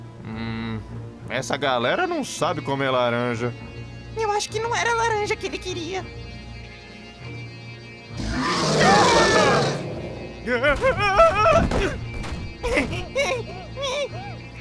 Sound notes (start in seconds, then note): 8.1 roar; 12.6 breathes heavily